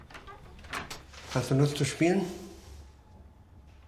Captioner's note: in German